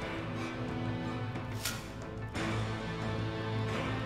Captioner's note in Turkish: Hançer sesi